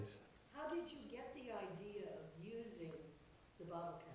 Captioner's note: voiceover